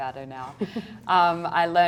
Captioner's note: woman laughs